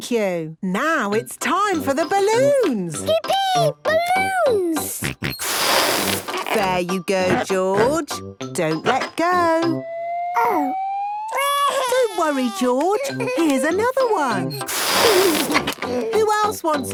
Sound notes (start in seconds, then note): 5.0 George snorts; 11.3 crying; 15.0 George giggles